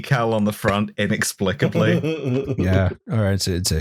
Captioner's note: chuckles